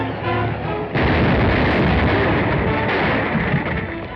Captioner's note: explosion